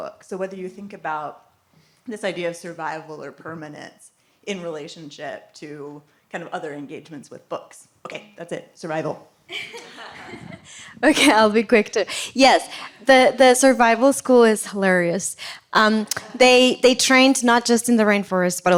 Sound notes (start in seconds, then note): 9.5 laughter